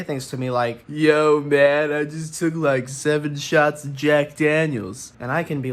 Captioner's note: slurred